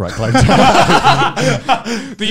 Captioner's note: laughing